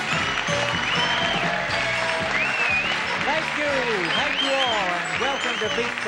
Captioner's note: audience claps and cheers